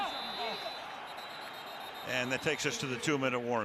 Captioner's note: whistle